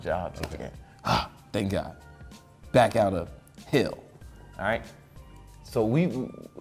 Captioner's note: exhales